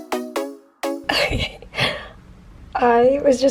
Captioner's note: giggling